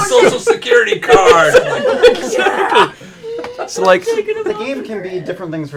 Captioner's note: laughter